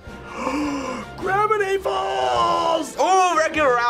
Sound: gasps

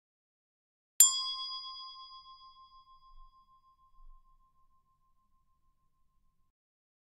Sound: sound hand bell

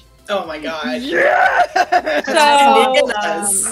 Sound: yelling

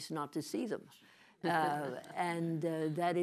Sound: laughter

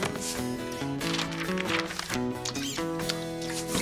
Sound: paper Rustling

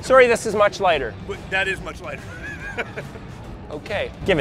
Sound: laughs

